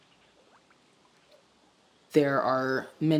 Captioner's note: water swishes